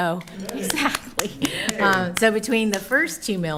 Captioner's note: clapping